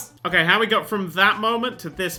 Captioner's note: none